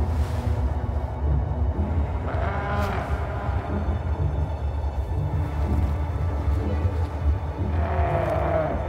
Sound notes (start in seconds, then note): 2.2 distant bleating; 4.9 building orchestral music